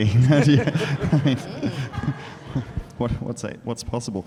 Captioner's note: attendees laugh